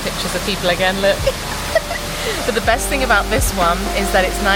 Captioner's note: laughing